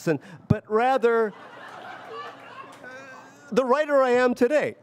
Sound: audience laughs

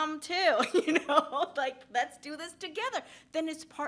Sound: laughs

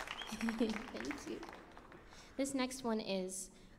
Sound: laughs

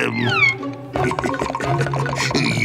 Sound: chuckling

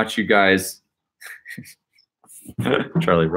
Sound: laughing

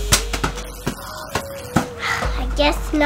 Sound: buzzer

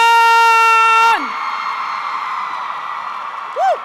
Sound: cheering

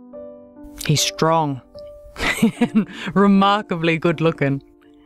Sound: laughs

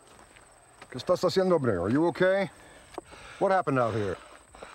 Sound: speaking spanish

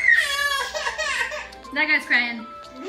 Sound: crying

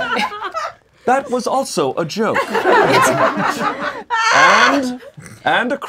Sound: laughing

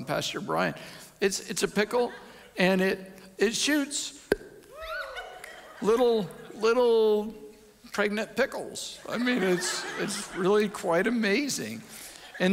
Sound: audience laughs

